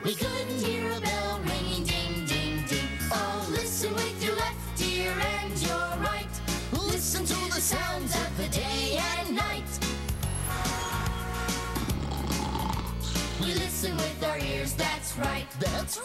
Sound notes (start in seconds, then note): 10.3 honk; 11.7 snore